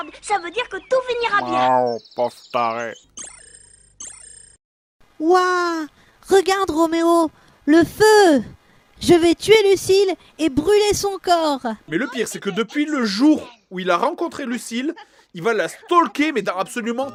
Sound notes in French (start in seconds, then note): 1.4 voix grave féline; 2.5 bruitages électroniques